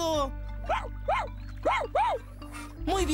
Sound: barking

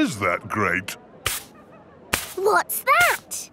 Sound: brushing

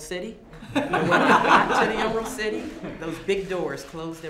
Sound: laughter

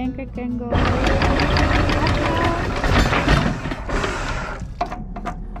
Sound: motor clanking

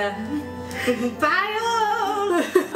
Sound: laughs

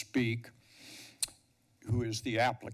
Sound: clicks tongue

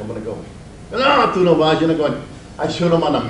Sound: speaks Spanish

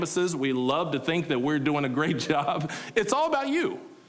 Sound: laughing

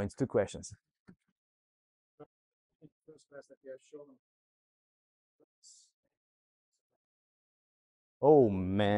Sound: silence

